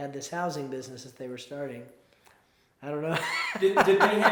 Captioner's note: laughs